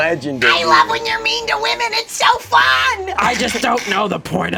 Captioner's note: screeches